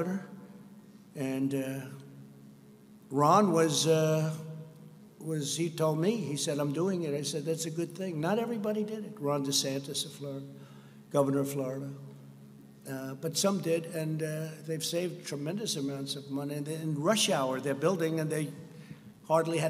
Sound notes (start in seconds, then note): none